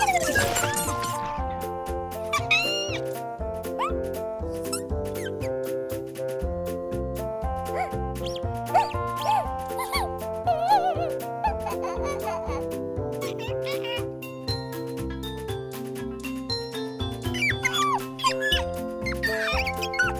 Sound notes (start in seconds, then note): 2.0 giggling; 7.4 gasps; 17.3 squeaking